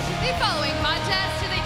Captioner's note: bell ringing